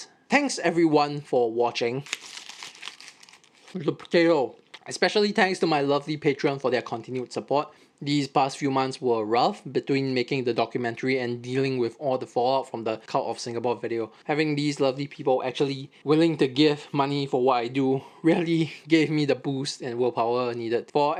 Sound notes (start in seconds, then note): 2.0 wrapper opening